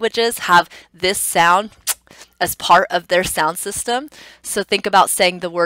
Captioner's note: makes a kissing sound